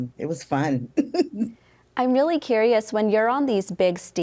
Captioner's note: giggling